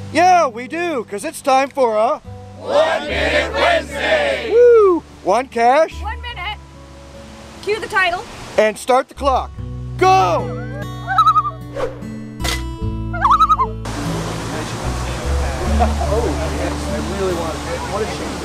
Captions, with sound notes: -Yeah, we do! Cuz it's time for a... -One Minute Wednesday! -Wooo! One cache. -One minute. Cue the title. -And start the clock. GO! [loon calls] [loon calls] [people chatting]